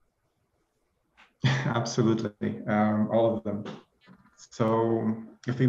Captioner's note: laughs